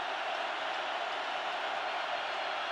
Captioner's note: crowd cheering